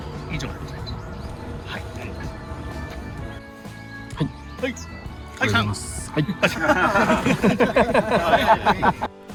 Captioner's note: laughs